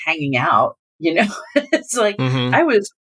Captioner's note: laughter